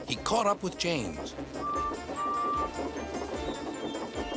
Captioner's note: toots